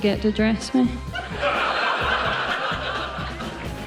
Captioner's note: laughter